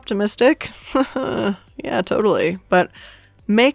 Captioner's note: chuckles half-heartedly